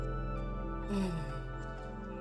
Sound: sigh

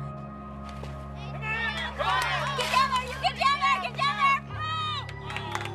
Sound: cheering and clapping

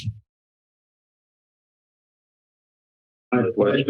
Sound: silence

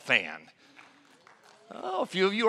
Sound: applause

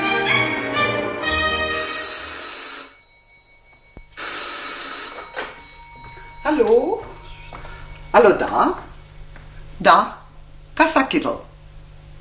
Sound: the phone rings

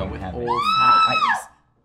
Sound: scream

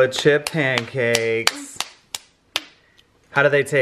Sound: hands clapping

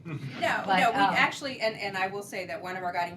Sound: laughter

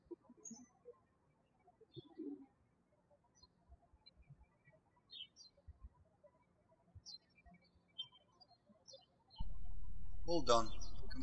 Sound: birds chirping

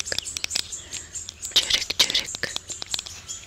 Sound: imitates birds

